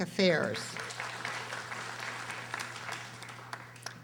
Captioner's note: audience applauding